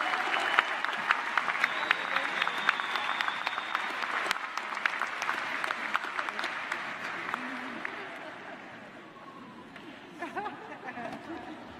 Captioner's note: applause